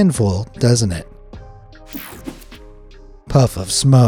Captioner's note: mellow music; graphic whooshes